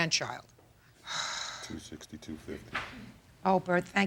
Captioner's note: Judge Judy sighs